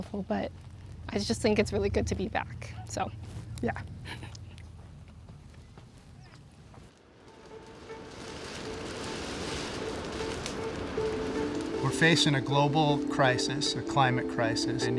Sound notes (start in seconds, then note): 7.8 fire crackling; 7.8 ominous music